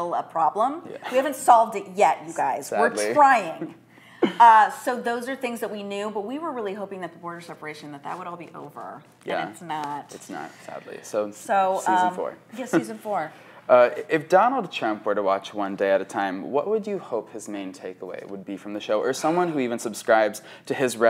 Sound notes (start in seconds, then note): 3.1 laughs